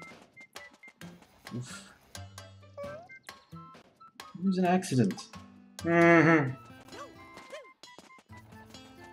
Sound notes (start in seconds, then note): 5.6 skeptically